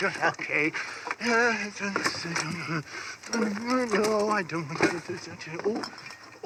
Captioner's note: hums